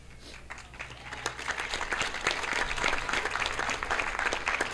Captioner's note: audience applauding